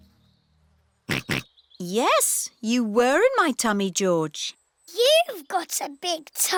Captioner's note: snorts